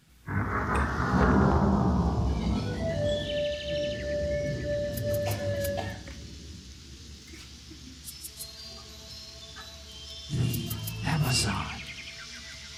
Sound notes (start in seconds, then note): 0.3 calm music; 5.2 rain whooshing